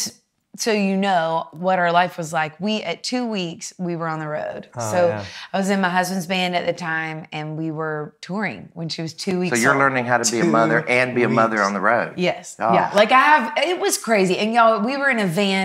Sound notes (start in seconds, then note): 9.4 giggles; 12.6 laughs